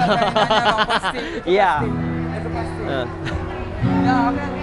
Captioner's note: laughs